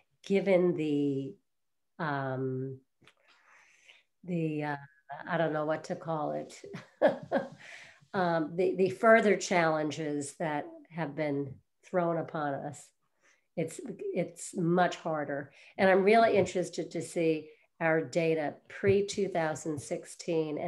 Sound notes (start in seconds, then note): 6.8 chuckles